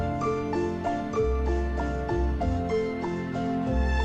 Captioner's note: none